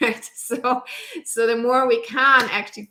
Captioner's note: giggles